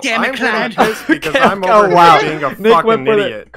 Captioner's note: laughs